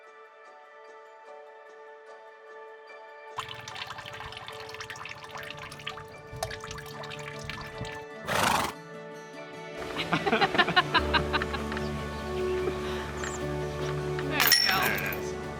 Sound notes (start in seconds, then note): 3.4 water dripping; 7.8 horse snort